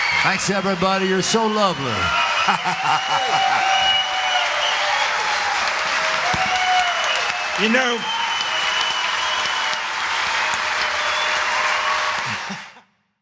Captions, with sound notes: Thanks everybody, you're so lovely [Applause]